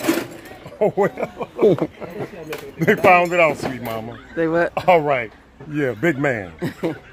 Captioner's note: Rire